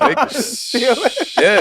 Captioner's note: laughs